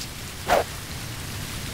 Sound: whoosh

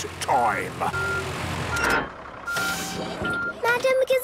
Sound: beeping, hydraulic noises

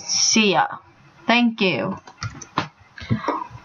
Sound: clicks

